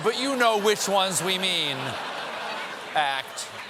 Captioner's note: laughter